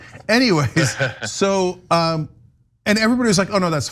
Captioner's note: laugh